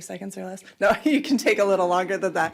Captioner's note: laughs